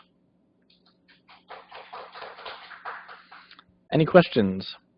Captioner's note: applause